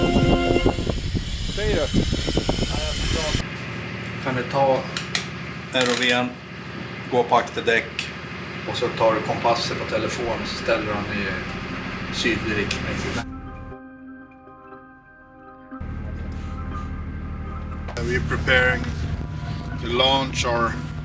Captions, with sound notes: (speaking foreign language) - Are we preparing to launch the